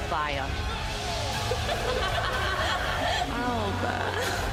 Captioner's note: chuckles